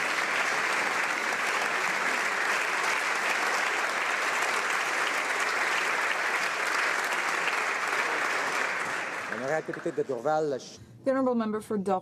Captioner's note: applause